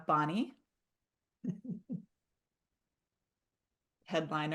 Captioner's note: chuckles